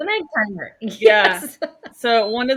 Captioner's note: laughing